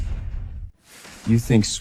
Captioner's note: door slams